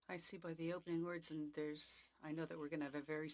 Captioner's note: speaking French